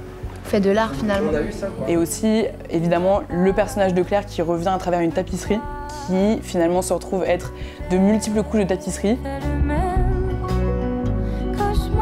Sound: speaking in french

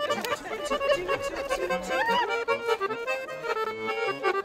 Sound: upbeat accordion music; women chuckling; upbeat accordion music

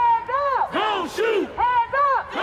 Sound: crowd

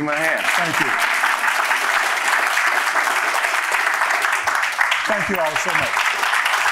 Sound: audience laughing

